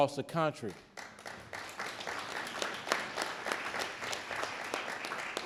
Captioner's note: audience clapping